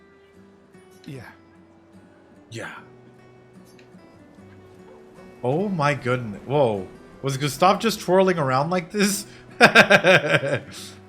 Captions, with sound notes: Yeah. Yeah. Oh my goodness. Whoa. Was it gonna stop just twirling around like this? (laughing)